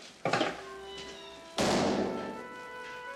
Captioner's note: door closes